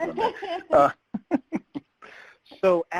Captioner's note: laugh